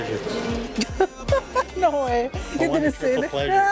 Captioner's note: laughs